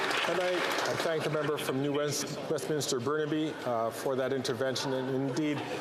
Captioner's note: some Applause